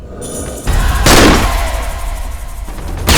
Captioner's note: gunshot